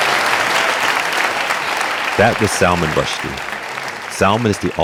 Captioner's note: audience clapping